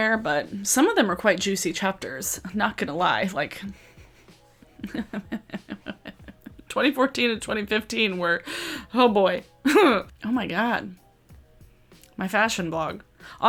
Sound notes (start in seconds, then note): 4.6 laughs